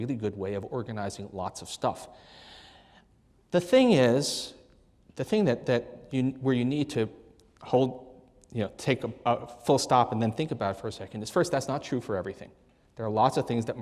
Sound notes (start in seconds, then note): none